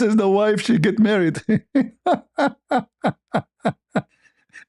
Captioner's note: ketawa